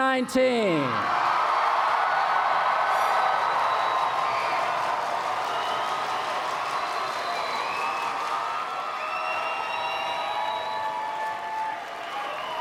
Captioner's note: applause and Cheering